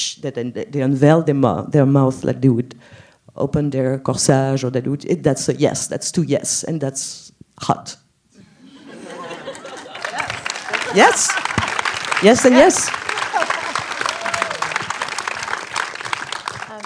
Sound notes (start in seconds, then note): 8.6 laughs & applause; 13.3 applause